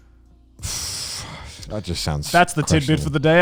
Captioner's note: air whooshing